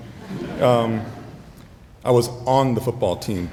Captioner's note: audience laughing